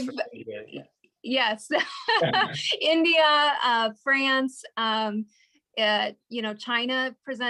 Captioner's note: laughs